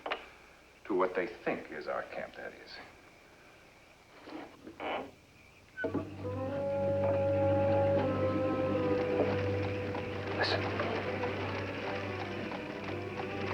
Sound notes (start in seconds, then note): 8.4 carriage Approaching